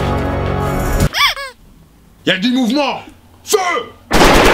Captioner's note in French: couinement